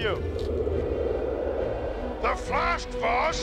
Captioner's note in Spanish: viento silbando